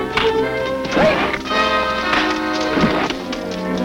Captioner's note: punches cracking